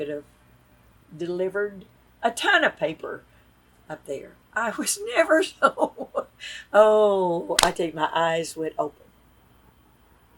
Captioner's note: laughs